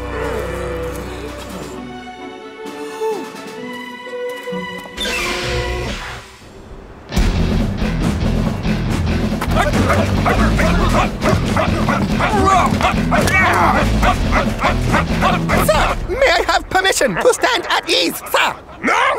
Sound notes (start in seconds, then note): 0.2 dramatic music; 9.7 grunting